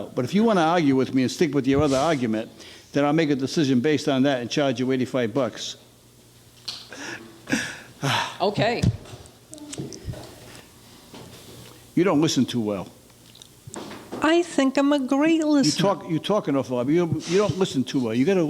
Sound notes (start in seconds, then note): 7.2 laughing